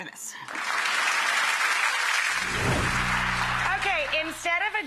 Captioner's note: audience applauding